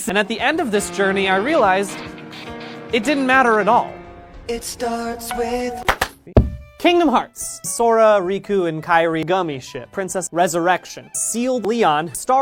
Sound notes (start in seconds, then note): 5.8 clap clap; 6.3 thump